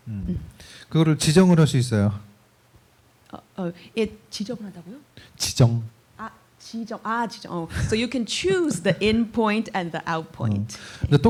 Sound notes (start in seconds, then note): 0.6 speaking korean